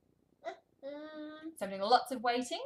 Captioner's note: babbling